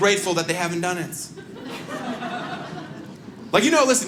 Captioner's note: audience laughs